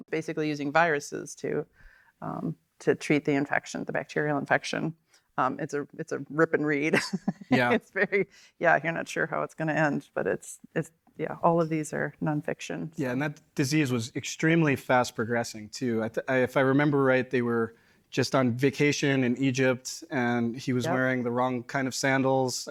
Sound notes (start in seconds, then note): 7.0 laughs